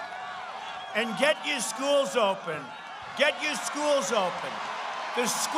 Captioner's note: cheers